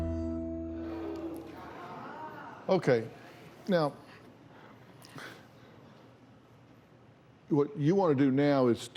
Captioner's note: audience murmurs